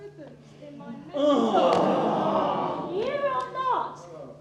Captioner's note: groans